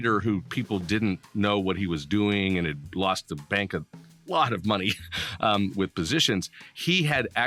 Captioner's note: laughing